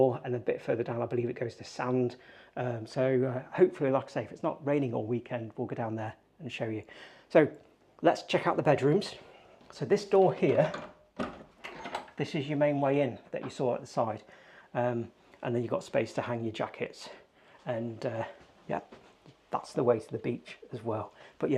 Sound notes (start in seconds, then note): 11.1 door clunking